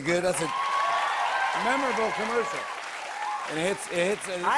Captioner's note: cheers and applause